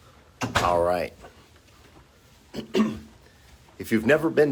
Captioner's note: clears throat